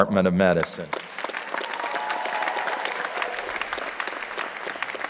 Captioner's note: crowd applauding